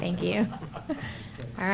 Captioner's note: laughter